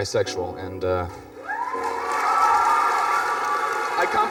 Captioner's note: students clapping and cheering